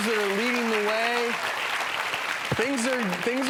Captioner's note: applause